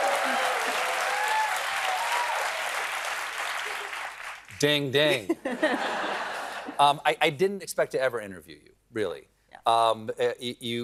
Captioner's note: cheering